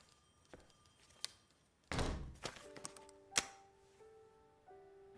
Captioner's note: door opening, closing